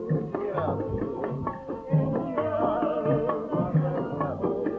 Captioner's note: people singing in foreign language; people chattering